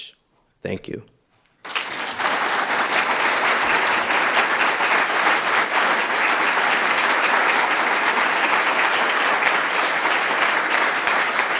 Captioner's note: applause